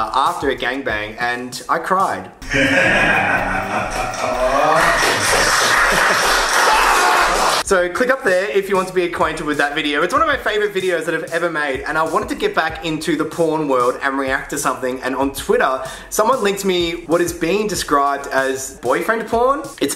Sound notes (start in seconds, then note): 2.4 man laughing; 5.3 people loudly clapping; 6.8 yells